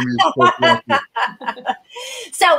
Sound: laughter

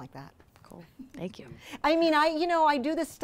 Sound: voiceover

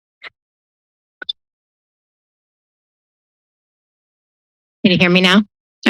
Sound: silence

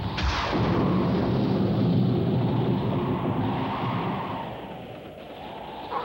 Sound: thunder clapping; wind howling

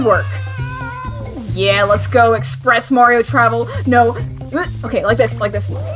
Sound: gasp

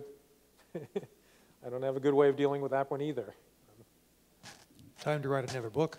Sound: laughs

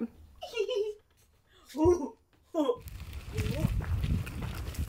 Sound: laughing

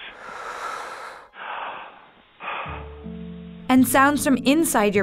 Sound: lungs inhaling and exhaling

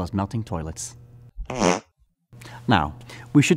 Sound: farts

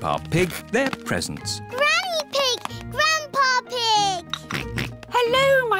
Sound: oinks

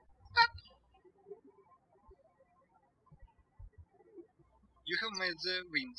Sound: birds chirping

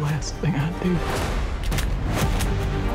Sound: gun cocking

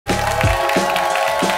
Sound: applause

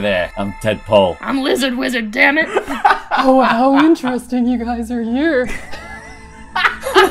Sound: laughter

